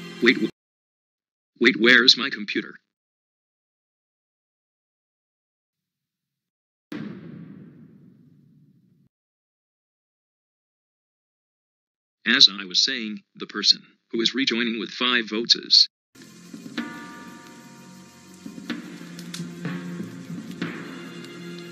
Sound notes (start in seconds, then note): 6.9 bang